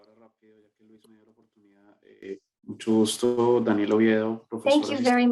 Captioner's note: speaking in Spanish